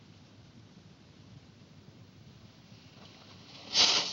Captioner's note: none